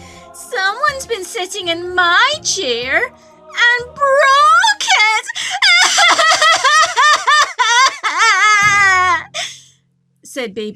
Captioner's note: cries